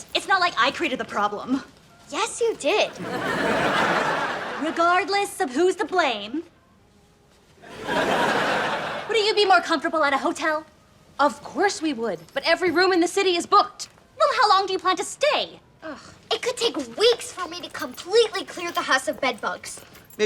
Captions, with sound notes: It's not like I created the problem. - Yes you did. (laughs) - Regardless of who's to blame, (laughs) wouldn't you be more comfortable at a hotel? - Of course we would, but everyone room in the city is booked. - Well how long do you plan to stay? - It could take weeks for me to completely clear the house of bed bugs.